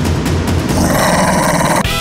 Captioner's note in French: Grognement